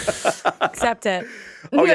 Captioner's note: Justin laughing